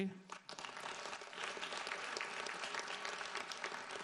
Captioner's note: audience applauds